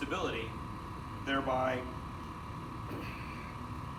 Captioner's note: grunts